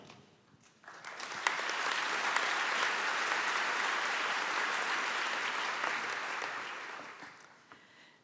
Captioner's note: applause